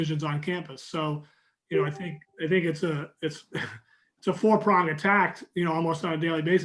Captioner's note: chuckling